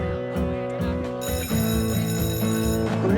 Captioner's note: school bell rings